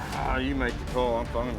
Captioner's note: groans